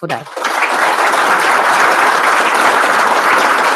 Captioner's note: applause